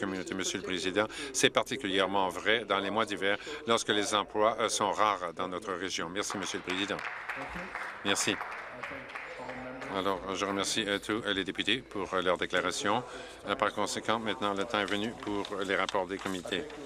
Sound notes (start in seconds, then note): 10.6 applause